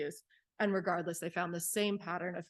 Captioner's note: none